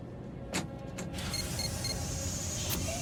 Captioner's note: beeping